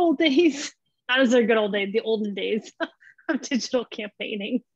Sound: laughs

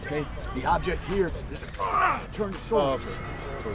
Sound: grunts

